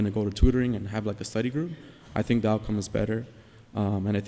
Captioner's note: none